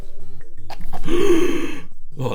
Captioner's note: gasping